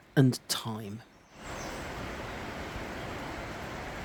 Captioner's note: sound of rushing water